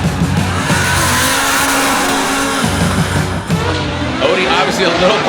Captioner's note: car engines roar